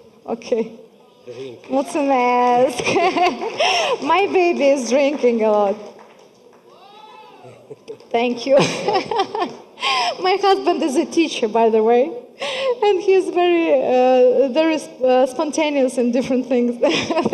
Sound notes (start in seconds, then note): 1.7 speaking foreign language; 8.5 laughing